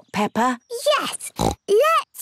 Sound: snorts

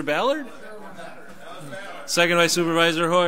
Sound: overlapping chattering

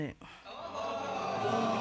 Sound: audience exclaiming

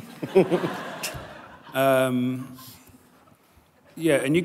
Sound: laughter

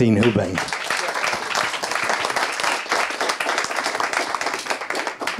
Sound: audience applauding

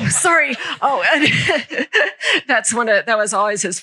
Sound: laughter

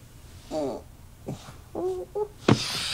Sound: groans

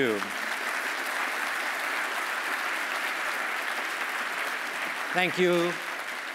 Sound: applause

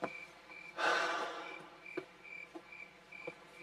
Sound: Julian Sighs

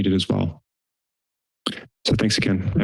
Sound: silence

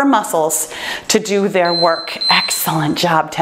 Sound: timer beeps

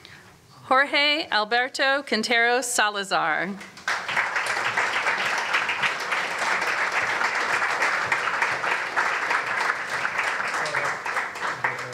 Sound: applause

